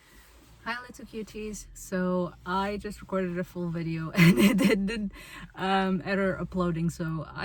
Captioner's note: laughs